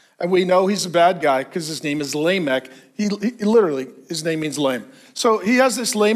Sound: none

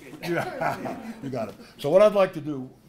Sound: laugh

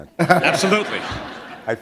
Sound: laughter

